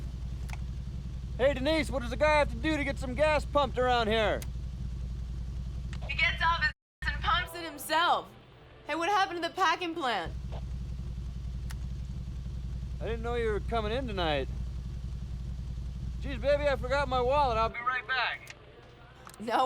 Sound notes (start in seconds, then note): none